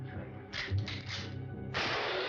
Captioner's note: gun cocks; gunshot